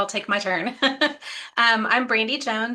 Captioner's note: chuckles